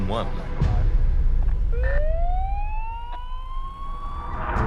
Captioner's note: siren blaring; dramatic music